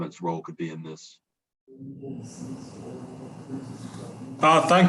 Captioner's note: indistinct conversation